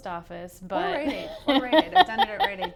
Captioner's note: laughs